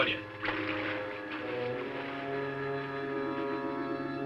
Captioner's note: water splashing